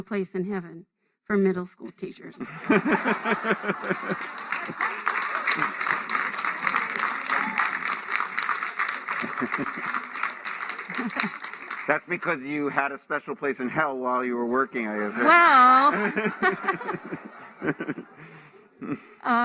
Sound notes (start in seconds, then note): 6.1 laughter; 8.1 applause